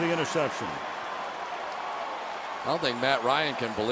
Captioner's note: cheering